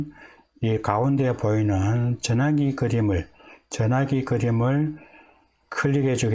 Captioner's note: telephone